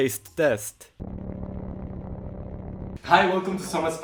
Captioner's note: Static